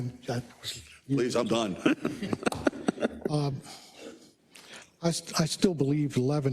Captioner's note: laugh